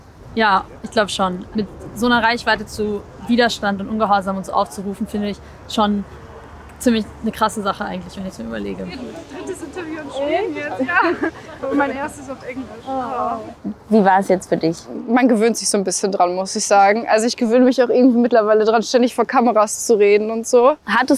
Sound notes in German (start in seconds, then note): 11.2 lachend